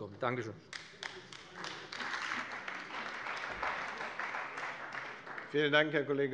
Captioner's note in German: Beifall bei dem BÜNDNIS 90/DIE GRÜNEN und der CDU